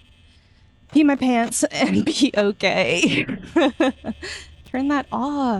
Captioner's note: laugh that my mic distorted strangely